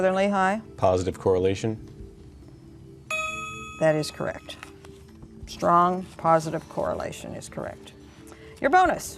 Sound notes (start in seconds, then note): 3.1 ding